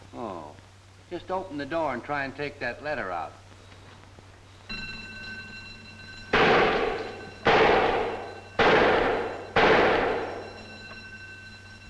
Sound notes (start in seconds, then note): 4.6 alarm ringing; 6.5 gun banging